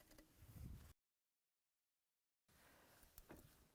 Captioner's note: no Sound Present